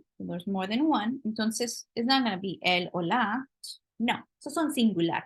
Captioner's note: spanish